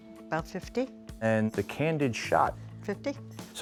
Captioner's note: none